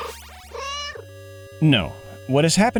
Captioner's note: meow